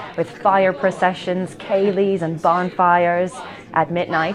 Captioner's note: distant voices counting down